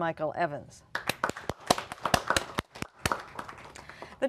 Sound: applause

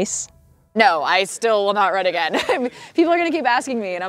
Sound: laughs

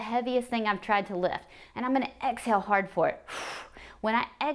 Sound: exhales

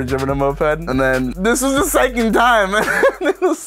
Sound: laughs

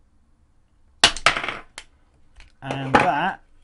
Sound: bang

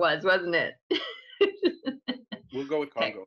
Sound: laughing

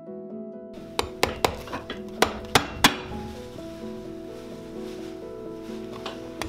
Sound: upbeat piano music; metallic banging

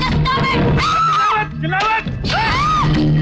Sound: screams

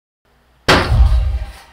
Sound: hand banging

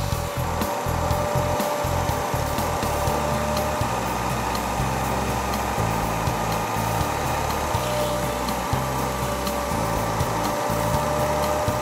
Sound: sound of vacum

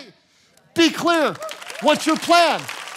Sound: congregation cheering

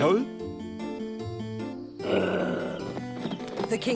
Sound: growls

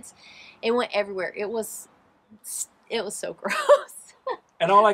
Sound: laughs

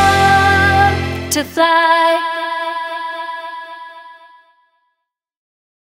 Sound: echoes

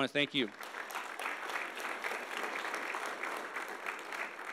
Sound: audience applauding

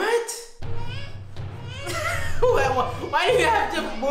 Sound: baby wailing

